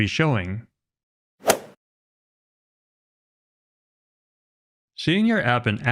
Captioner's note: golf swing sound effect